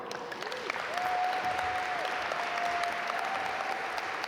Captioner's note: audience applaud